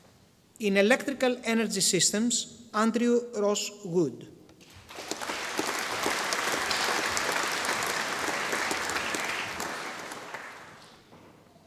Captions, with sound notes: In Electrical Energy Systems, Andrew Ross Wood. (audience applauding)